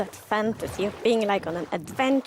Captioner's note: water flowing under raft